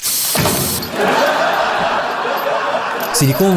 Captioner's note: laughs